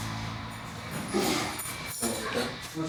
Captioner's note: inmate clears throat